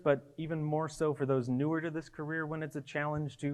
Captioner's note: none